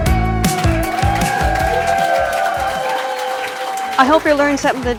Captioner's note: applause